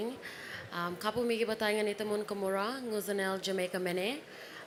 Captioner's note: speaks indigenous language